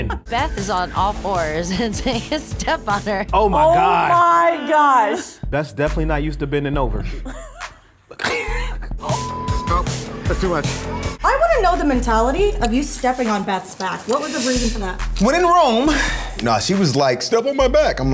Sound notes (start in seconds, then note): 7.7 all snickering; 9.0 beep